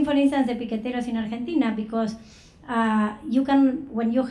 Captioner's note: speaking foreign language